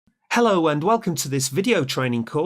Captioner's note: voiceover